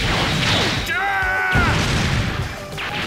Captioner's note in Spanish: Gritos